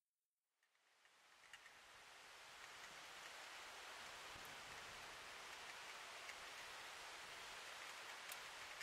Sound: sound of waves on the shore

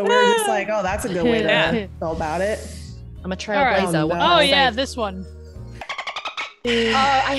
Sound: laugh

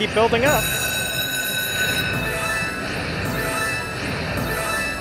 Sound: bell ringing

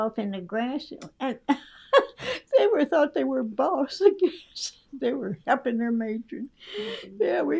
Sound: laughs

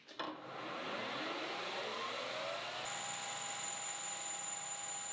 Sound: machine whirs

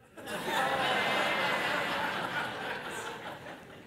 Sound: congregation laugh

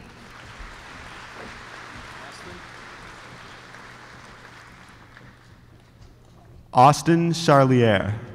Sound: applause

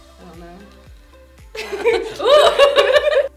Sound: laughs

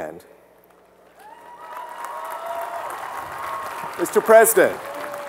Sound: applause

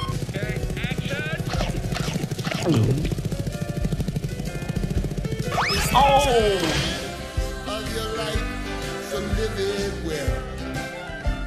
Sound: gulps, screaming

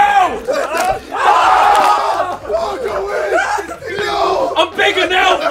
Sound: people cheering

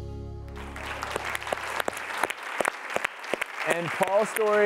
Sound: applause

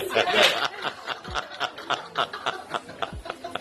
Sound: laughter

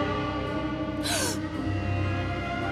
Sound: gasping

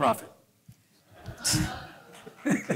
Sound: laughter

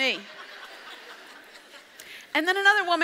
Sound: audience laughs

